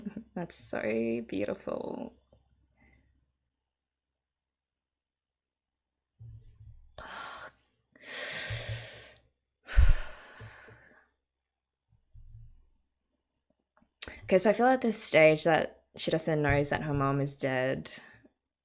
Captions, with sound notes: That's so beautiful. [sharp hissed breath] [exhales] Okay, so I feel at this stage that Shirase knows that her mom is dead.